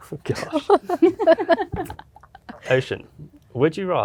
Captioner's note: laughter